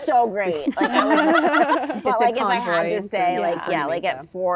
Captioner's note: laughter